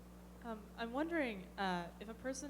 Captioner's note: voiceover